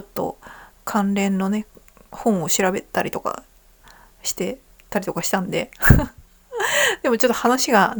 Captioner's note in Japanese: 笑い